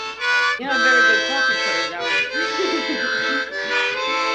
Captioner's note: laughter; playing harmonica